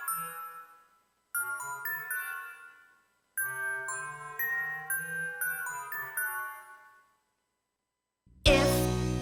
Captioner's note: chiming sounds